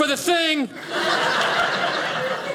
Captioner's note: audience laughing